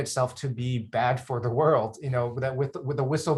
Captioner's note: chuckles